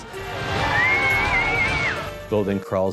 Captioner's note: cheering